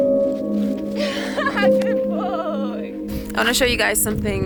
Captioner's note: laughing